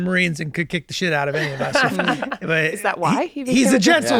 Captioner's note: laughs